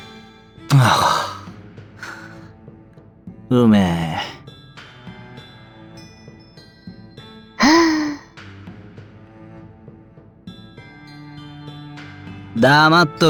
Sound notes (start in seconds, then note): 0.7 drinking